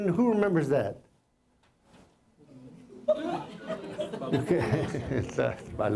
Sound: laughter

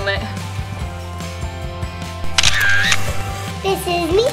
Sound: upbeat music; camera snapping

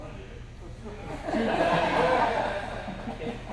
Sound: laughter

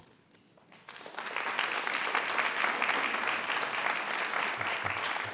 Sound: audience applauds

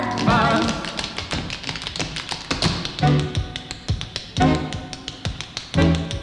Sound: dancers tapping; upbeat music

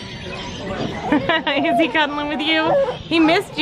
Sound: laughs

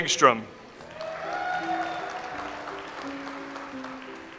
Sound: audience applauds

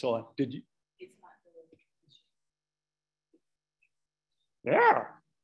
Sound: speaking away from the mic

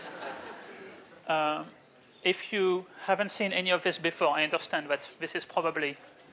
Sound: laughter

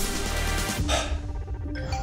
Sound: sighs

